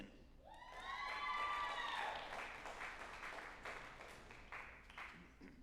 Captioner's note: group applauding and cheering